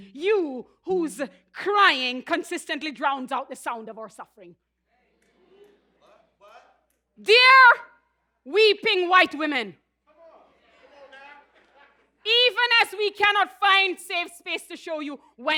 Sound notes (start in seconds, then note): 5.0 audience vocally responds; 10.3 audience voices encouragements